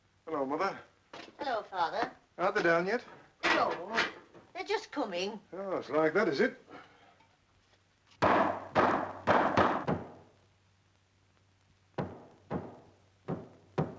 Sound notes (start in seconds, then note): 8.4 broom thudding